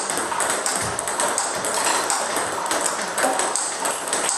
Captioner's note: ball ping pong hitting continues